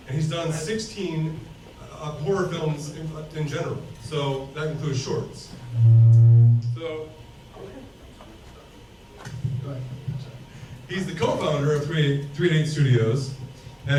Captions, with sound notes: and he's done 16 horror films in general so that includes shorts so. (mic whirs) (people chatter) He's the co-founder of 388 Studios,